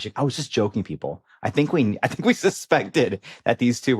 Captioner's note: chuckles